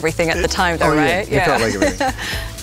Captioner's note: laughs